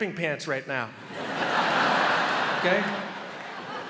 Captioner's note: crowd laughs